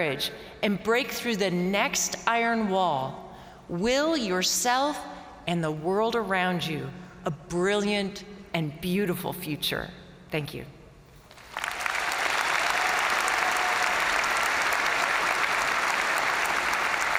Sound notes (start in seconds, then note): 11.3 crowd clapping; 11.4 crowd cheering